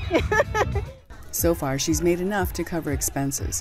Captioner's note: laughing